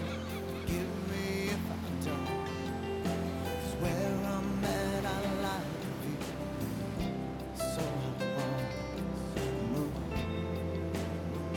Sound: waves crashing

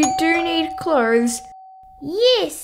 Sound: doorbell rings

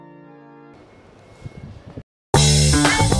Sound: wind blowing; theme song

